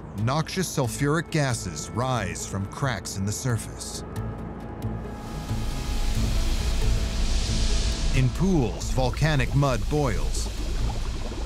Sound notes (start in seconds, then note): 5.1 gases hissing; 5.3 ominous music